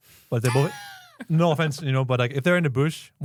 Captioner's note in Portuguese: risos